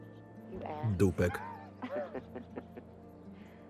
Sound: both laughing

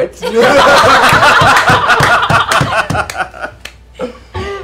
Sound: cheering and laughter

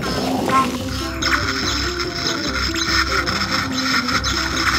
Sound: zapping

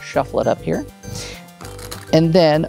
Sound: cards riffling

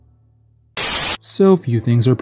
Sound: Static

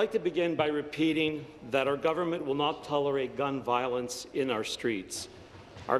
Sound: applause

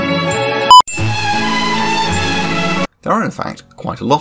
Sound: ear rape

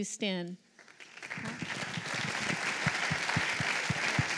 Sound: applause

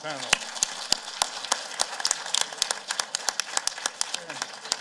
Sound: applause

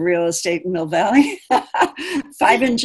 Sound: laughing

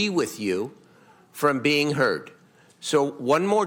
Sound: none

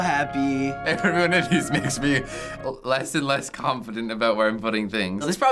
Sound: laughs

